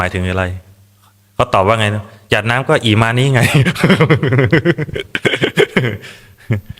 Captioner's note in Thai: เสียงหัวเราะ